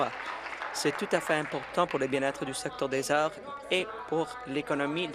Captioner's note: applause